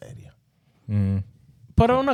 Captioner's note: speaking In Foreign Language